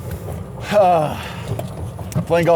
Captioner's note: sighs